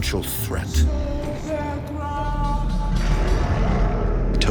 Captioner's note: chanting